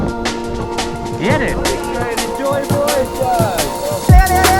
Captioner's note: people chattering; upbeat music